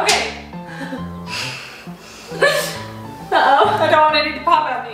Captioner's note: laughing